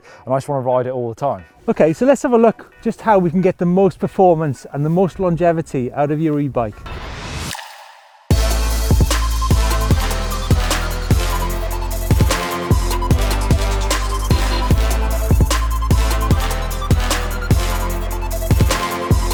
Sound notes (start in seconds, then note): 6.8 whooshing; 9.7 upbeat rock music